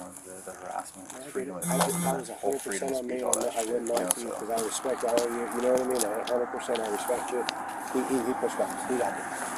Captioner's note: radio chatter